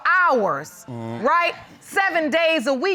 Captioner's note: groans